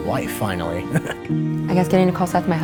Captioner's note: chuckling